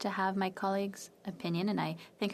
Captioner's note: speaking FRENCH